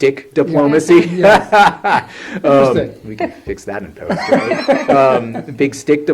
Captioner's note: laughs